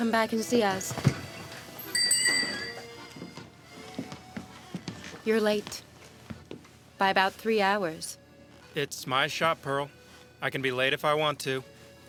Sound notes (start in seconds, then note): 1.8 bell